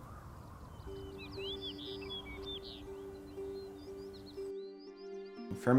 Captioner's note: birds chirping